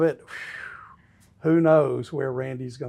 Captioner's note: whistles